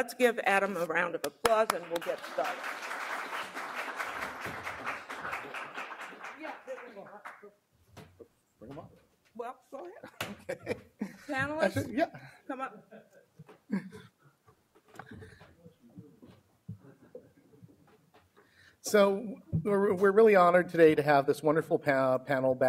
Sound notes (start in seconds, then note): 3.1 applause